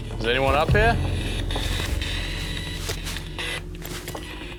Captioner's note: static coming from radio